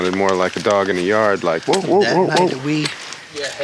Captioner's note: mimics dob barking